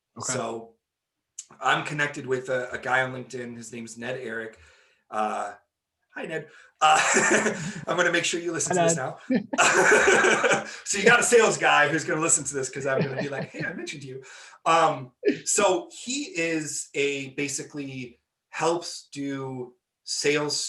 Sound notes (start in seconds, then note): 6.8 laughing; 9.5 laughing